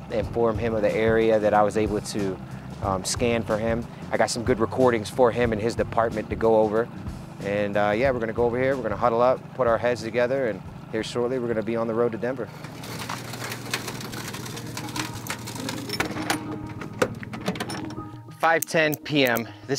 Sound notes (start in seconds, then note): 12.5 truck door cranking